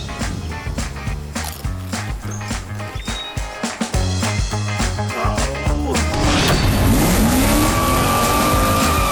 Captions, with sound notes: Old man "nom nom nom nom nom" Old man [sighs with great disappointment at his parking predicament] 'Vrooooommm"